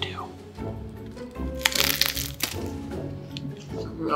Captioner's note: crunching